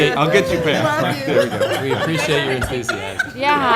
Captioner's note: laughter